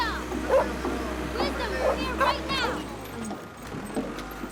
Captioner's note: dog barking